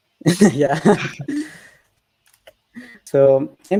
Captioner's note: both laughs